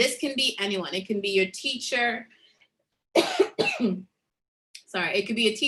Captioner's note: coughs